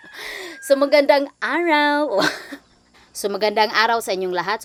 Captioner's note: speaking in Tagalog starts now